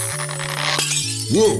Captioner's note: glass breaks